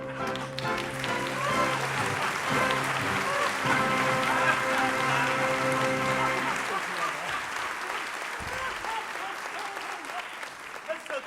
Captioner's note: applause